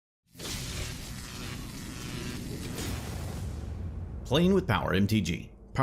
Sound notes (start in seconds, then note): 0.5 static crackling